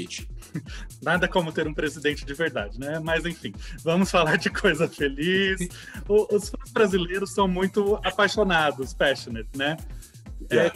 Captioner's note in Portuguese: risos